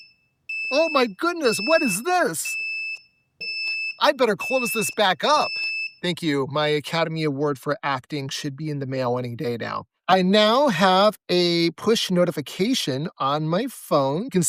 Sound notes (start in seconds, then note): 0.5 beeping